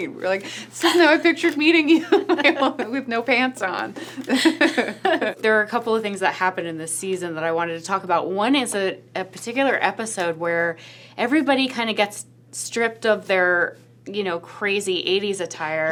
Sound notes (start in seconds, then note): 4.0 laughs